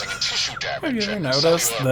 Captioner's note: laughing